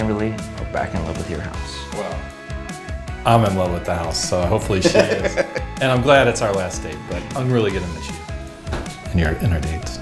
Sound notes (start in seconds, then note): 4.6 Drew laughing